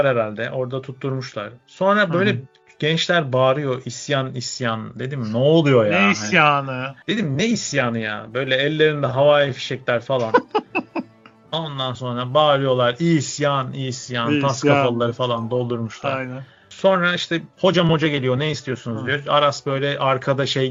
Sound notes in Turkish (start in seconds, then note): 10.2 kahkaha